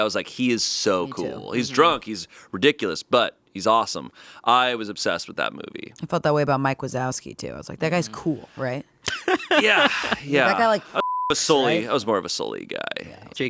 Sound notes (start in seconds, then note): 9.0 laughing; 10.9 beeping